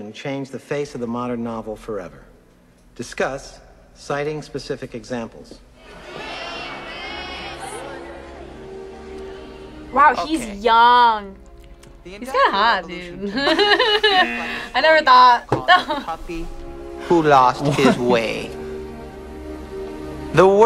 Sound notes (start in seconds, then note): 5.7 crowd murmurs; 13.2 both laugh; 13.5 buzzer; 16.0 laughs; 17.6 laughs